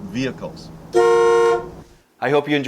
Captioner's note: car horn honking